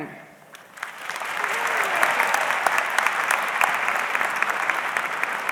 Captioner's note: audience clapping